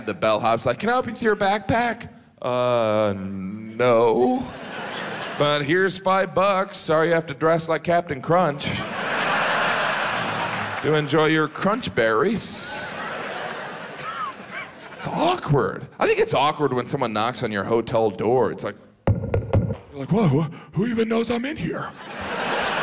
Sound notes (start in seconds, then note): 8.6 audience laughs; 19.0 microphone knocks